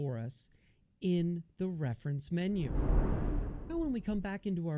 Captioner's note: air whooshes